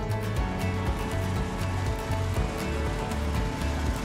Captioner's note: tiller humming